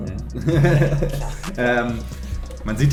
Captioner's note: both laughing